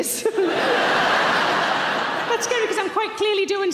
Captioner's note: audience laughing